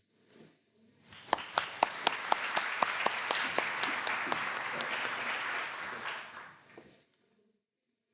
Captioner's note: applause